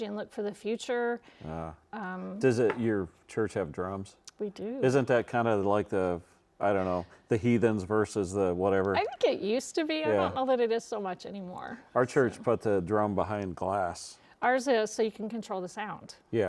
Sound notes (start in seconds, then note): none